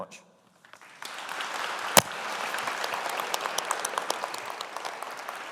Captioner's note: audience applauding